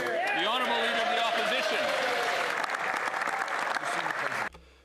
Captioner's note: applause